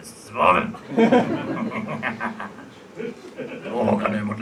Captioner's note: audience laughs; Audience and Murray laughs